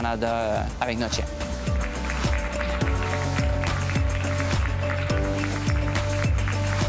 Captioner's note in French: applaudissements